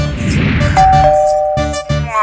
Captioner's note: Doorbell rings